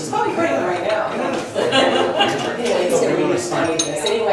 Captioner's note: laughs